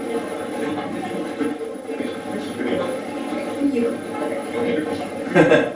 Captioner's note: static playback transmitting; Michael laughing